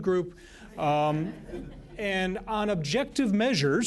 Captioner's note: laughter